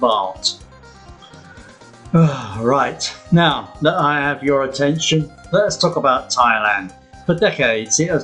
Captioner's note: sigh